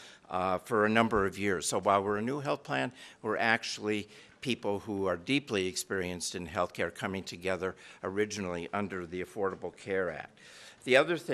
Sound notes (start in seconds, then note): none